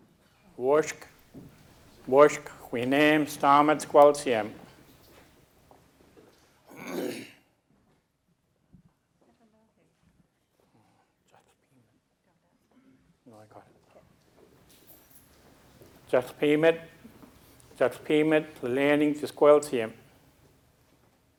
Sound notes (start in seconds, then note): 0.2 speaking a local Indigenous language; 15.7 speaking a local Indigenous language